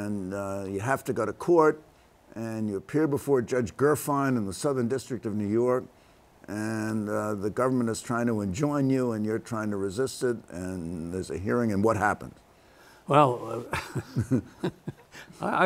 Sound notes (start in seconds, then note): 11.3 laughter